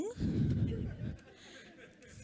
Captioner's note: laughter